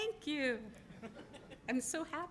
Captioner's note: laughter